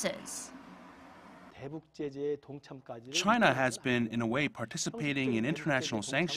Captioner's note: Korean